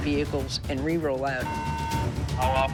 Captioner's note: loud, buzzing sound